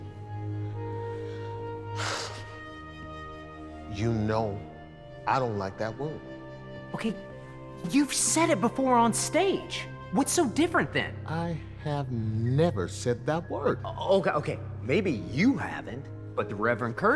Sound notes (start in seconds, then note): 0.1 haunting orchestral music; 1.0 sighing